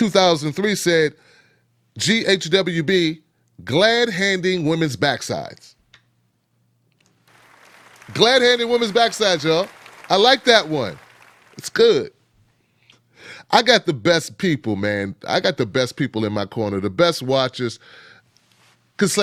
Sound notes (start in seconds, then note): 7.2 audience claps